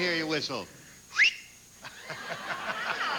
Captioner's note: whistles